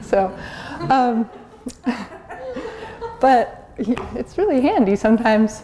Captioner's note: laughter